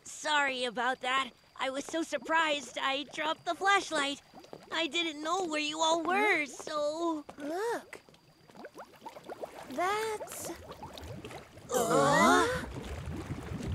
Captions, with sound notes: Sorry about that. I was so surprised, I dropped the flashlight. -I didn't know where you all were, so-- -Look. [bubbling] That's... [all gasping]